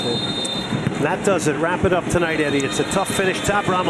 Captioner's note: whistle